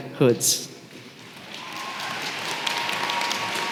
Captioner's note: applause